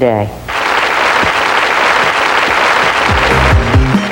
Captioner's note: applause; upbeat music